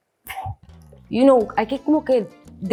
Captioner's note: scoffs; speaks in Spanish